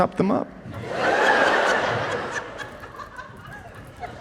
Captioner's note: people laughing